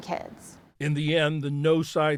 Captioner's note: voice-over